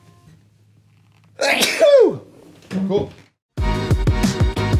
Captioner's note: sneezes; bright music